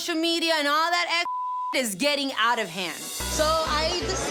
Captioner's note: beep